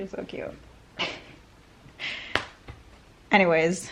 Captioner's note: laughing